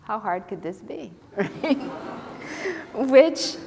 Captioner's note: laughter